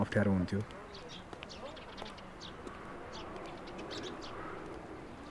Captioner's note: footsteps on road, birds chirping